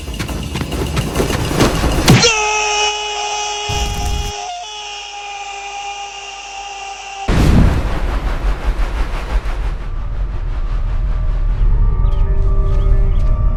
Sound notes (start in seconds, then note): 1.3 kick